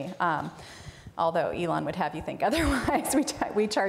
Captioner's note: laughs